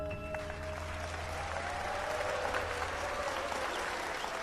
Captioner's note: audience applauding